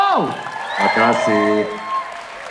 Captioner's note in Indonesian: tepuk tangan